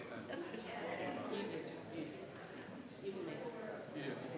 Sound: crowd chattering

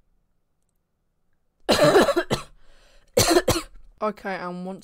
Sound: coughing

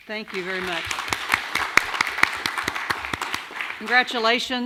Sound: audience applauding

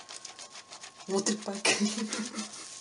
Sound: giggles

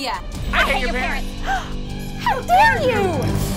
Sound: gasp

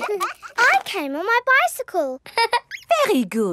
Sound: all laughing; laughs

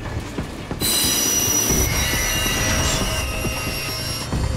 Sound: train brakes squealing

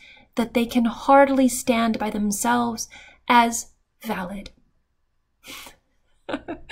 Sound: laughing

